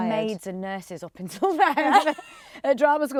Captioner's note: laughs